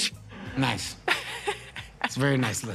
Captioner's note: laughs